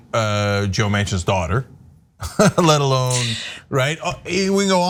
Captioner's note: laugh